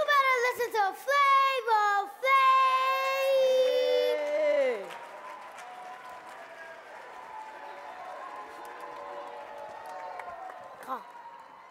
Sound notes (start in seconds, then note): 3.4 audience cheering